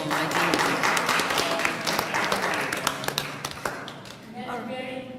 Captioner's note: applause